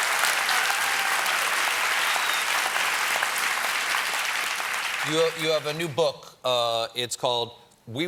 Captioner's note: cheers and applause